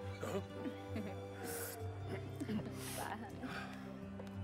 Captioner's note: giggling